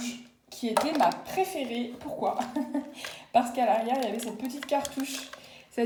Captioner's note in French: Rires